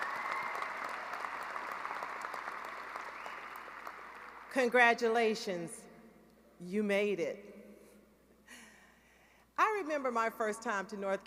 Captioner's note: cheering and applause